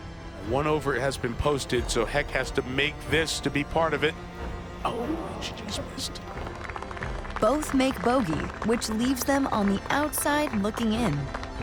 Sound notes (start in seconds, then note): 6.9 crowd applauds